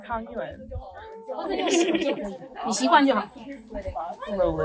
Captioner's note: foreign